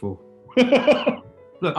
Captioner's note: laughing